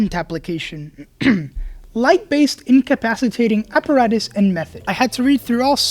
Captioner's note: clears throat